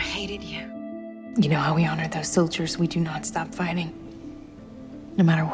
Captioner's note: voiceover